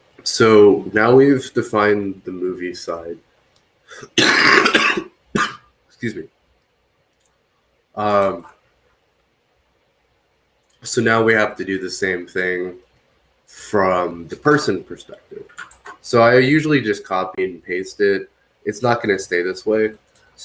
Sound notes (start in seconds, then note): 3.9 coughs